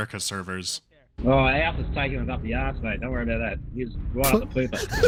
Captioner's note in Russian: игрок тараторит с сильным австралийским акцентом; взрыв смеха